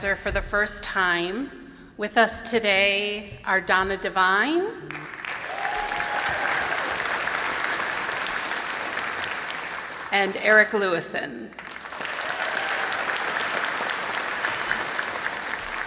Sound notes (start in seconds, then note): 4.8 applause and cheering; 11.5 applause